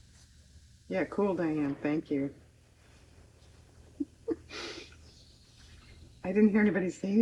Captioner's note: laughs